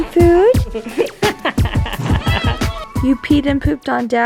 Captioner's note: children laughing